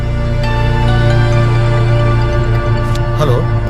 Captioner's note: cell phone rings